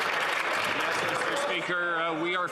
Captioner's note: some Applause